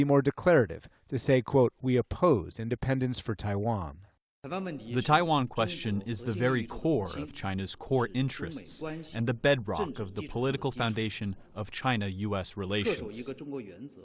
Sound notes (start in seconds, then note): 5.6 through translator